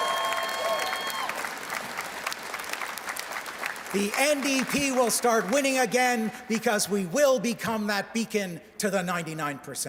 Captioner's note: cheers and Applause